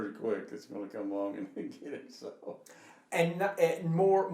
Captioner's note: laughing